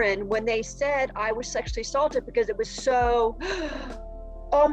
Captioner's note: gasp